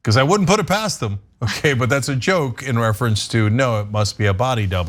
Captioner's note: laugh